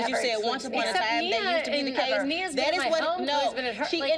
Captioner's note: overlapping chatter